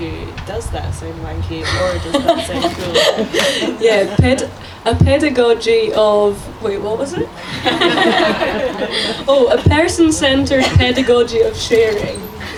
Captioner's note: laughter